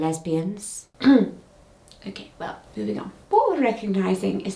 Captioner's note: throat clearing